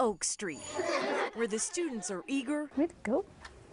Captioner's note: NAT bell rings